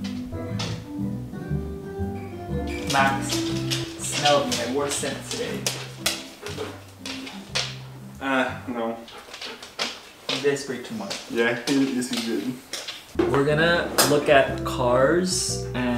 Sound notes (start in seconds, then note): 0.3 squeaking; 5.4 footsteps plodding